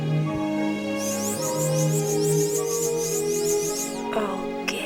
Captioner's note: high whirring